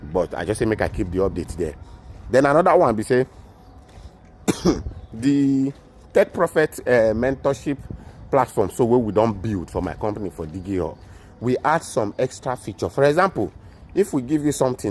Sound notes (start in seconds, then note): 4.4 coughs